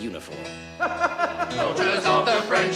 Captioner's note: man laughing; playing piano